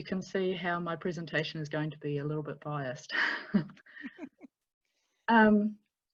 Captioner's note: laughter